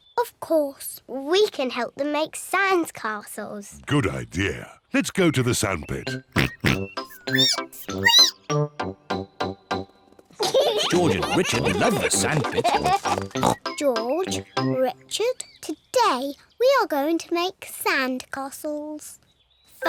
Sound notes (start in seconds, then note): 6.3 oinks; 6.4 squeaks